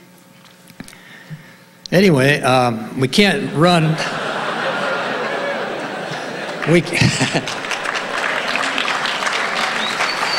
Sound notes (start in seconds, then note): 3.2 audience laughing; 7.6 laughs; 10.1 audience applauding